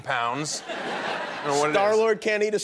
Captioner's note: laughter